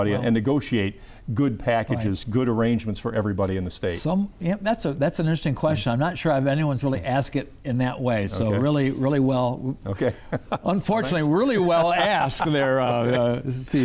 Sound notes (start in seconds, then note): 10.0 chuckles